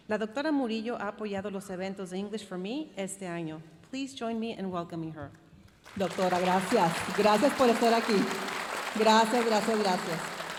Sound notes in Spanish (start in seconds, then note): 4.4 hablando en inglés